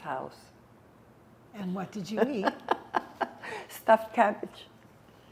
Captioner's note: laughing